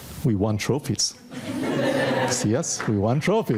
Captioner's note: audience laughing